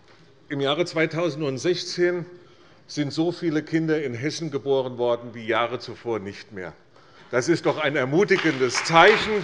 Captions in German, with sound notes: Im Jahre 2016 sind so viele Kinder in Hessen geboren worden wie Jahre zuvor nicht mehr. [Beifall bei der CDU und dem BÜNDNIS 90/DIE GRÜNEN] Es ist doch ein ermutigendes Zeichen